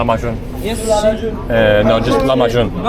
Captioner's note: speaking Turkish